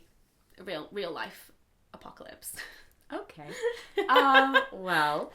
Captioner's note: laughs